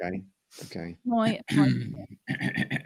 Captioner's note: clears throat